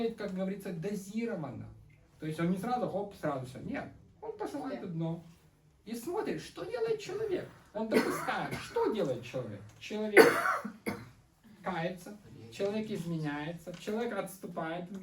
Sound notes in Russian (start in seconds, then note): 10.1 кашель; 10.2 откашливается